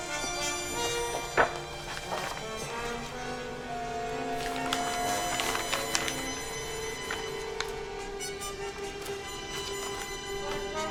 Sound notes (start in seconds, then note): 1.5 envelope crinkling; 7.1 intense dramatic music